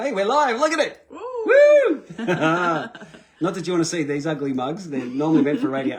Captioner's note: laughter